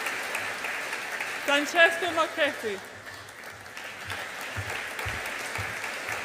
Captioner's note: audience applauds